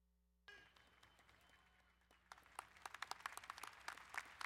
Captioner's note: crowd applauding